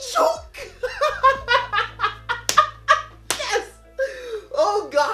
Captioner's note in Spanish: risas